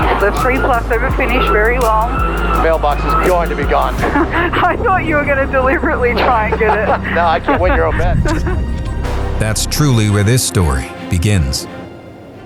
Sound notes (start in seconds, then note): 5.6 laughter